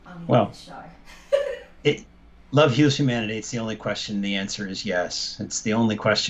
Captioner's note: laughter